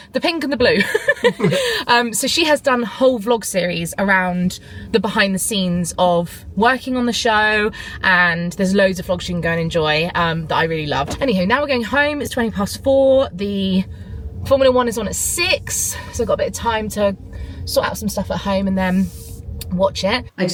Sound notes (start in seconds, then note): 0.7 laugh